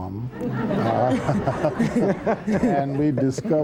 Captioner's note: laughter